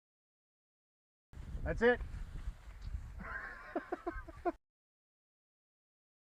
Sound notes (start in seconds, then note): 3.2 laughing